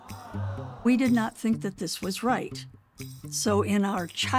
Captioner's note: crowd exclaims